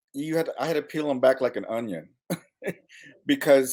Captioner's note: chuckles